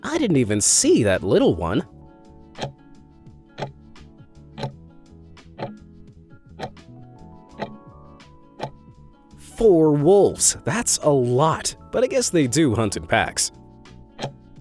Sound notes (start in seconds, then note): 2.7 timer ticking; 14.1 timer ticking